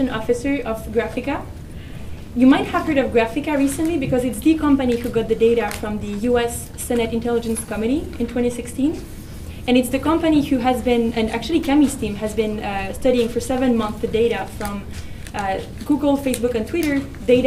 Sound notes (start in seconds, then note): none